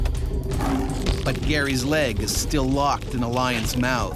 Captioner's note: voiceover